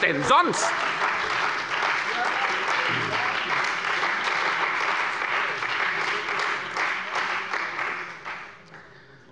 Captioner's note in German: Beifall bei der CDU und dem BÜNDNIS 90/DIE GRÜNEN